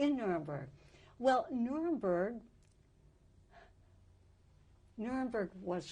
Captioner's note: pauses for 3 seconds